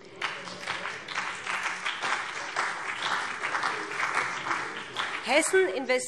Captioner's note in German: Beifall BÜNDNIS 90/DIE GRÜNEN und vereinzelt CDU